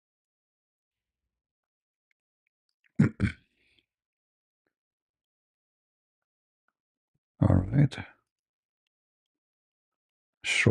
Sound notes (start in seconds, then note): 3.0 berdehem